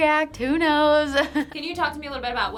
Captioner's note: chuckles